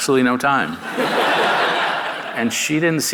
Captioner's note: audience laughing